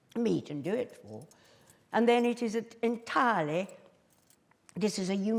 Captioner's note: none